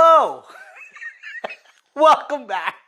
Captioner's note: laughs